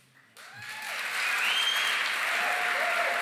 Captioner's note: cheering, applause